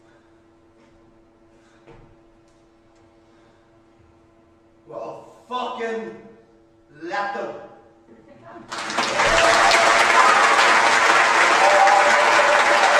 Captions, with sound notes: Well fucking... let them. ( applause )